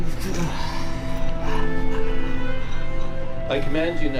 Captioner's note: groaning